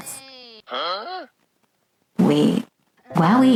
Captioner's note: huh? SFX